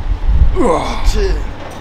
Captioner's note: sound of effort intensifies